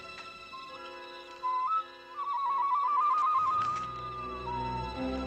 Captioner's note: birdcall